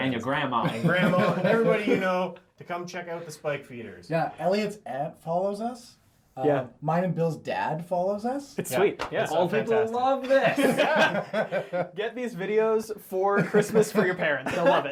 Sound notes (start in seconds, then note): 10.2 all laugh